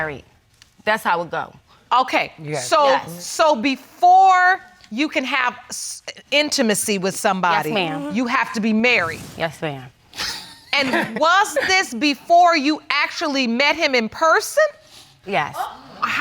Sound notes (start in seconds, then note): 10.8 laughs